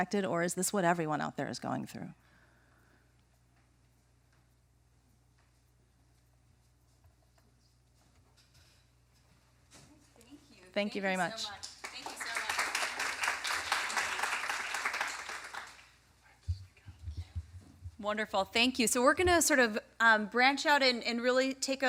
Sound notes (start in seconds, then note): 11.6 applause